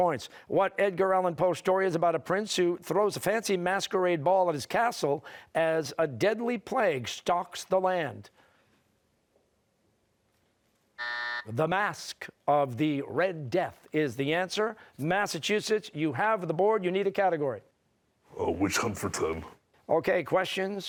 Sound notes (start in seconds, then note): 11.0 buzzer